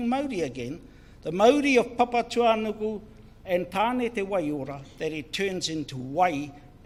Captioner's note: speaks in foreign language